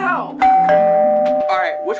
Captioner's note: doorbell chimes